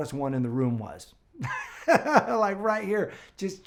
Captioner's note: chuckling